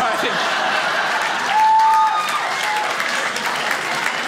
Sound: crowd laughs

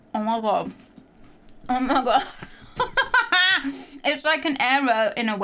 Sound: laughing

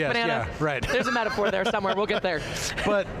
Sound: chuckles

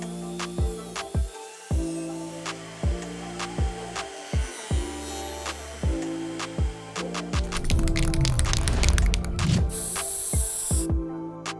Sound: spray can noises

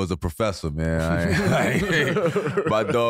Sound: all laughing

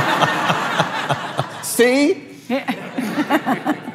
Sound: laughs

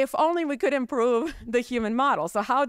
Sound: chuckles

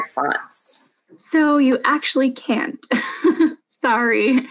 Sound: laughs

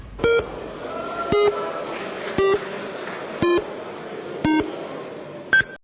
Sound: sound of voting in Verkhovna Rada

